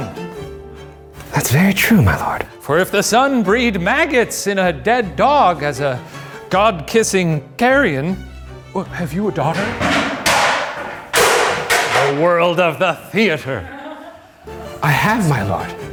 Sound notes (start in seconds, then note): 9.5 loud bang; 13.2 laughing